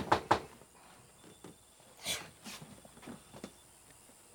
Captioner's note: scoffs